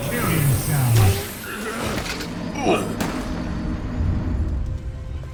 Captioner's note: Dark Souls death sound; Minecraft death sound